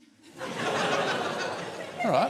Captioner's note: laughter